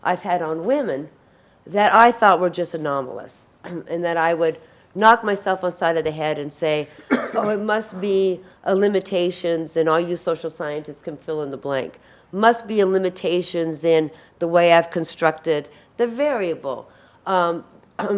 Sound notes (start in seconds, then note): 7.0 audience member coughs